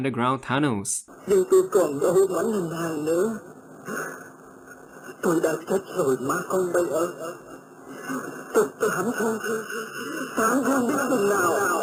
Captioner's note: altered voices